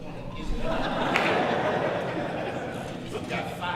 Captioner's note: audience laughs